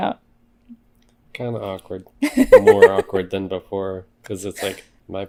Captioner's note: laughs